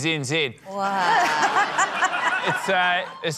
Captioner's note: laughter